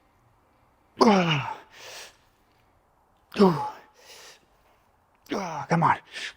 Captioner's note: lifting weights